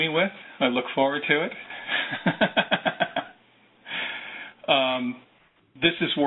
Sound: laughs

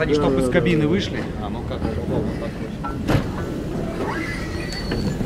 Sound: speaking in Russian

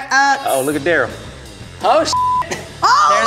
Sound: beep

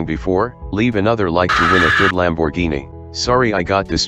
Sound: sCREAMS

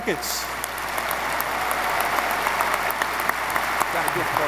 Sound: audience applause

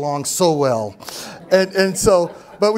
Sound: laughter

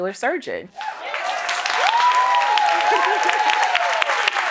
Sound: cheers and applause

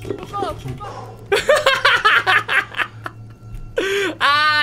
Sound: evil laugh

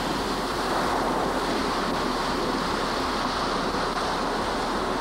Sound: waves crashing

